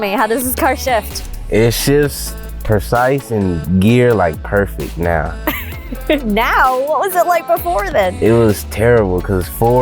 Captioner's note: laughs